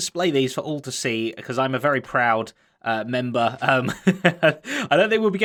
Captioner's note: chuckles